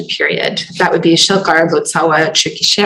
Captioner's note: non-english